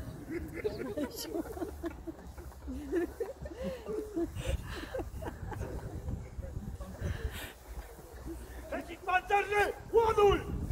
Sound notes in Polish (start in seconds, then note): 0.1 lekkie śmiechy publiczności